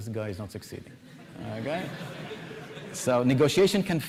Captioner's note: laughter